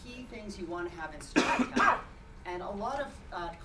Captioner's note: speech drowned by cough